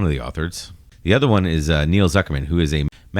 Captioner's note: uh